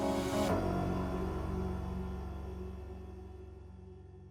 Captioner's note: low gong